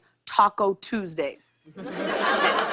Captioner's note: laughter